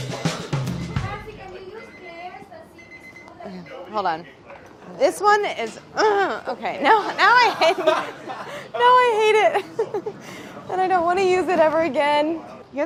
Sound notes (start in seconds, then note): 0.0 upbeat percussion music; 2.7 timer beeping; 6.7 laughs